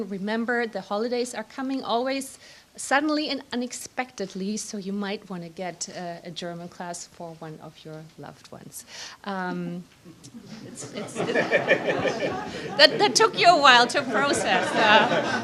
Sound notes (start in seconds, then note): 10.7 laughter